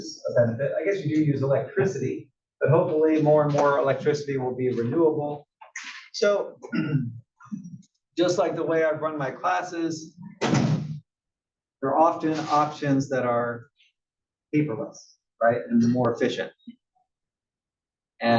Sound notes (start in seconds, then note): 6.6 cough